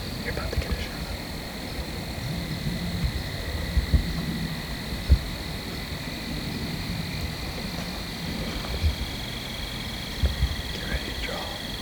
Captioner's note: insects / frogs